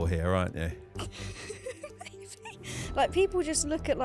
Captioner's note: laughing